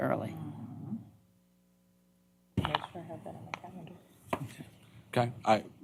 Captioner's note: indistinct chatter